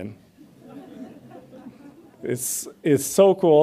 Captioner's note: audience laughs